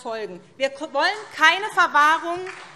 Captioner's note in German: Beifall SPD